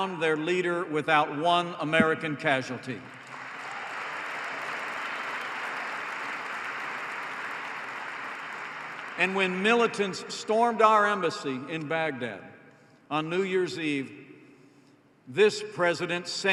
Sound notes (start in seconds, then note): 3.0 applause